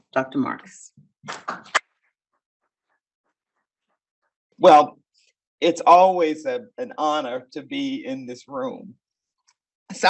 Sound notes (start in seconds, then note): 1.4 audience applaud